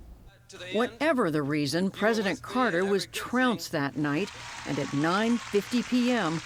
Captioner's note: voice-over